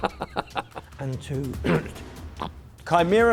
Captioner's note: coughs